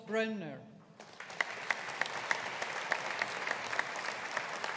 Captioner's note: audience applauding